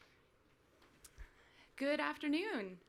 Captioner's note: none